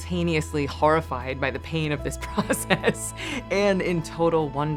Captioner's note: laughs